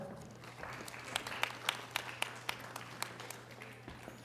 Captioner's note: audience applause